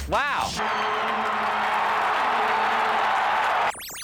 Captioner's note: cheering